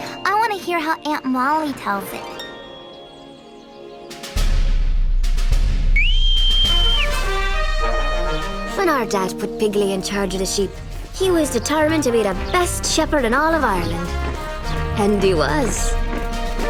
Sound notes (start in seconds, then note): 5.9 whistling